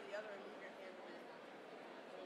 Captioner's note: none